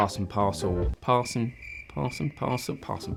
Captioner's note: crickets chirping